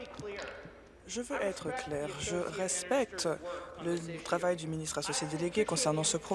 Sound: applause

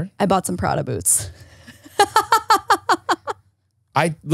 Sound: laughs

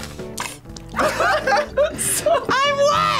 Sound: laughs; both laugh

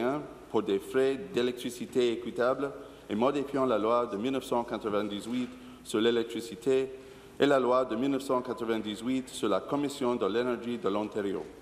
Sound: speaking in French

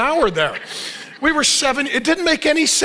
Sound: congregation laughing

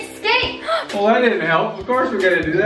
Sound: gasping

